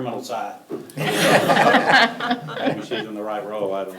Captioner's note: all laughing